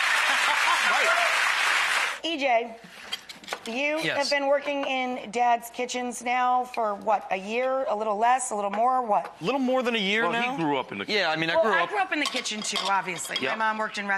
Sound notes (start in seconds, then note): 0.1 laughs